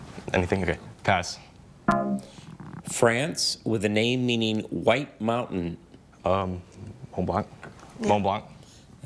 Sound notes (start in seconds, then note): 1.9 bell dongs